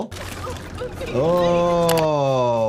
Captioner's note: gears creak; video graphic clicks